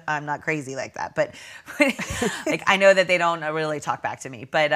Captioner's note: both laughing